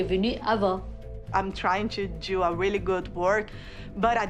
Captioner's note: in English